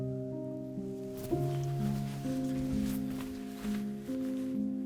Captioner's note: jacket rustling